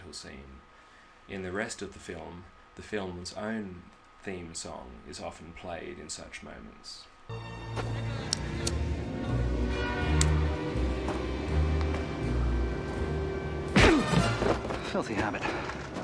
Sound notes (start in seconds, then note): 8.3 click, swoosh; 10.1 click; 13.8 thud